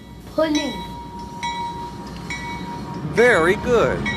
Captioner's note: crossing bells dinging